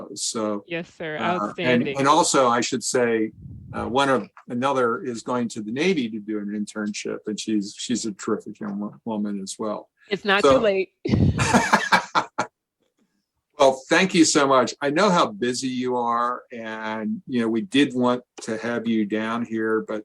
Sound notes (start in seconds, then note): 11.0 laughter